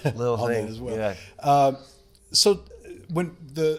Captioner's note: chuckles